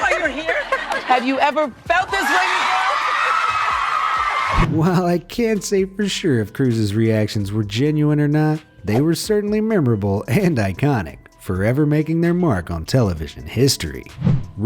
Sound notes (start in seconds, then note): 2.1 audience cheers and applauds; 3.4 Oprah laughs